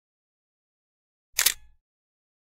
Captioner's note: camera shutter clicks